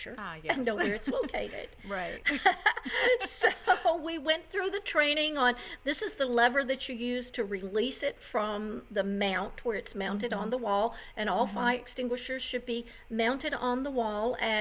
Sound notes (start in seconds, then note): 0.4 laughs